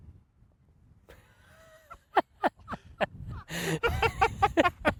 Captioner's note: everyone laughing